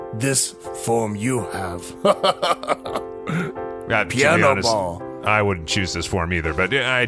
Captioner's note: laughs